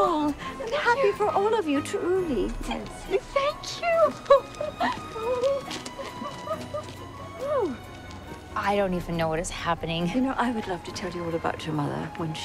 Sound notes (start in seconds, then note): 4.3 Melinda giggling